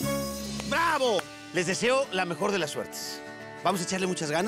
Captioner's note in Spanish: aplaude